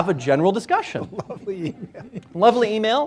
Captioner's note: laughing